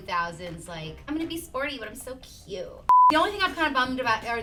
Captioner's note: beep